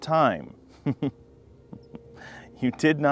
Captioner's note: laughs softly